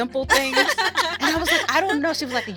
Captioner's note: women laugh